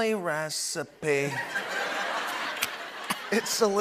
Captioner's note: laughter